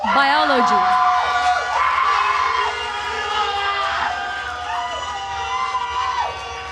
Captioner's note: attendees cheering and applauding